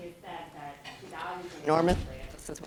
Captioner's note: microphone cuts out